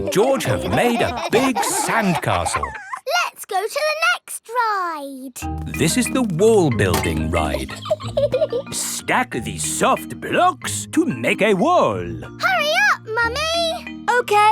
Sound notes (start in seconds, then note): 7.4 laughs